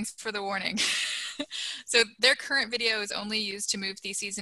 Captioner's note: laughter